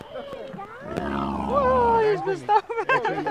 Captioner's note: pig growls